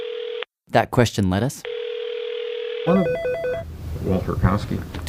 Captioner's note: phone rings; phone rings